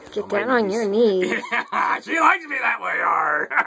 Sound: laughs

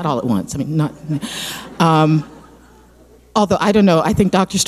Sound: audience laughing

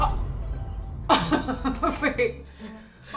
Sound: laughs

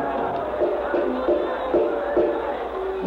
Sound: Knocking

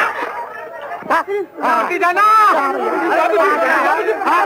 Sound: muffled shouts continue

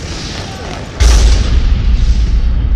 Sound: enormous explosion

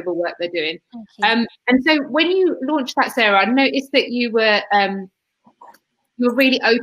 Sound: erm

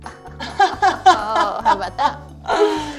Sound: laughs

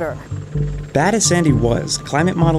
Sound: voiceover

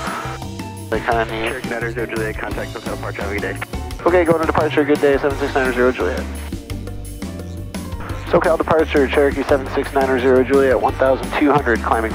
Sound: radio calls

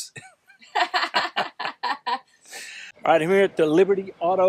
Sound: laugh

